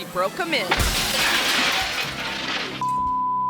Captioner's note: glass shattering; beep